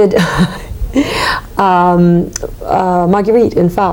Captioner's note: chuckling